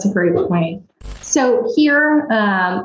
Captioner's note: static buzzes